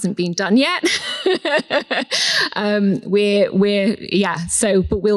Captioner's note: laughs